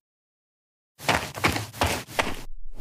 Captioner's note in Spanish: FX - Footsteps - On Multiple Dirt - Run; FX - Whoosh - 03